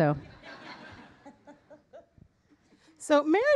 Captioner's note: audience laughing